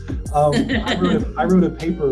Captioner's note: laughing